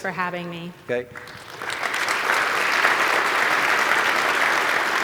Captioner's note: applause